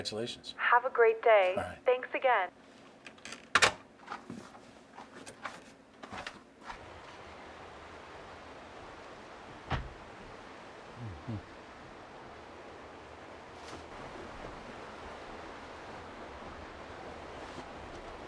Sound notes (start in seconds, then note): 3.1 phone handle clicks; 10.9 Mercer grunts